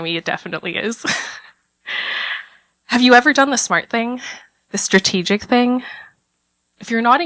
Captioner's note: laugh